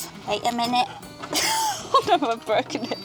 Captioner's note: murmurs; laughs